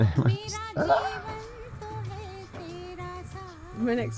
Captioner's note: faintly scream